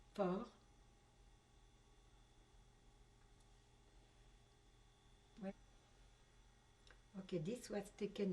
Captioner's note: pauses for 6 seconds